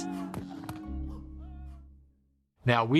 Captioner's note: groaning